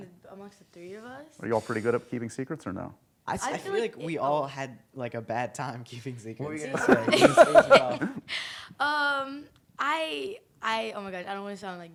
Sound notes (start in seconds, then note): 6.7 laughter